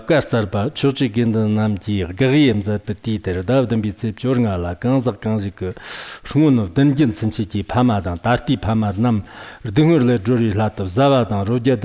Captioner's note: giving oral transmission in Tibetan